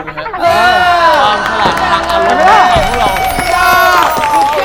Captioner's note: woo!